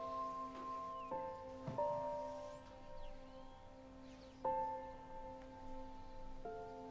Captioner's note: gentle music; birds chirping